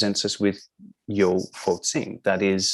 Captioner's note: non-english